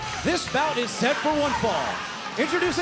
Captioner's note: bell ringing